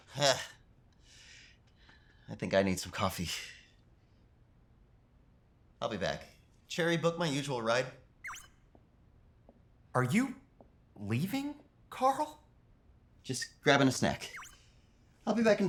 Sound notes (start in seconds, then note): 1.0 exhale; 8.2 Cherry beeps